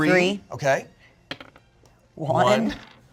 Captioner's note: dice rolling